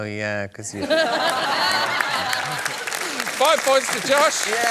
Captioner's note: laughter and applause